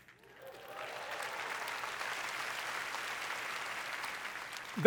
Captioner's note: applause